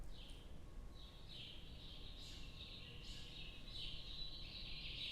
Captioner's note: chirping